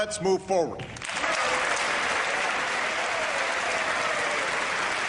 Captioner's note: applause